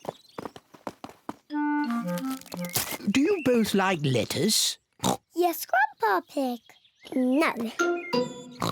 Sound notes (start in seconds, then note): 5.0 oinks